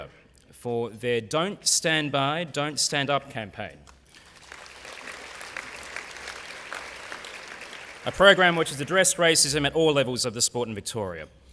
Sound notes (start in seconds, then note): 3.8 applause